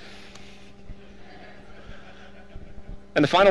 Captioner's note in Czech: hihňání publika